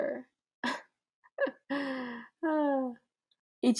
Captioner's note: scoffs and laughs and sighs